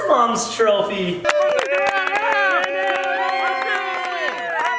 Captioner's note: applause